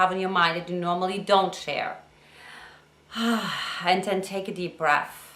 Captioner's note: exhales